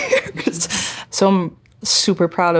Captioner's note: chuckling